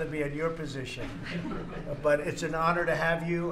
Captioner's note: laughter